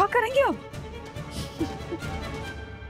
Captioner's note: laughs